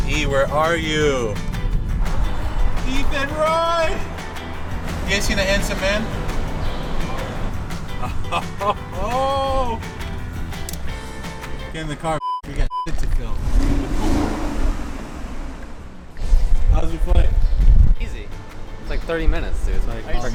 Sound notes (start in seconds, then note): 8.2 upbeat music; 12.2 beep